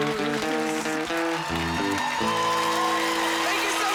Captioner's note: crowd cheering